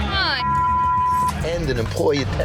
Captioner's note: beep